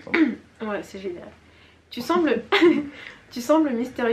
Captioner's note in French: rires